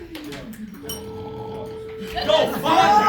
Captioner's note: bell rings